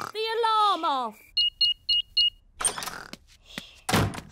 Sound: beeping

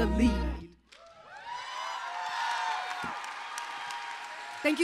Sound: applause

